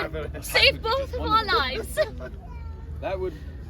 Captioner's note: both chuckling in close to sacrificial death